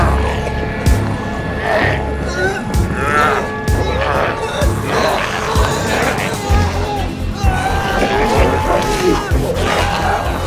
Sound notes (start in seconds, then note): 1.5 growling; 7.4 screaming